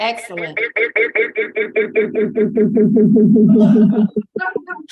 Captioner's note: microphone echoing